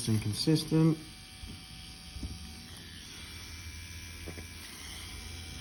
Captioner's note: machine whirring